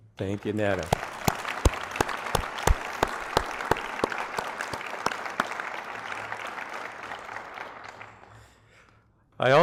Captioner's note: applause